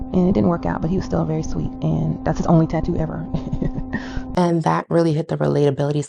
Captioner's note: giggles